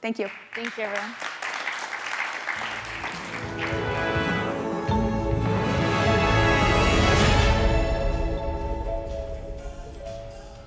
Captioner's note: applause